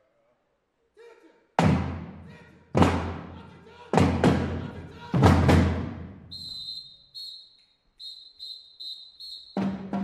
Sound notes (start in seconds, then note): 3.5 whistle